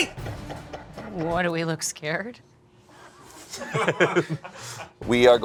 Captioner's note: group laughing